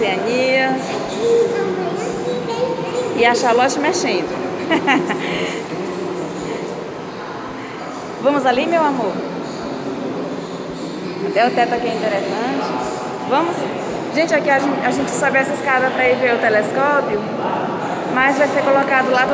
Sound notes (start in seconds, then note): 4.3 laughs